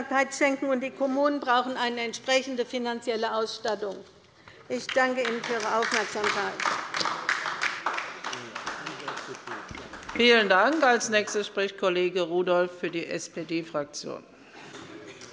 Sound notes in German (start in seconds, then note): 7.4 Beifall bei der LINKEN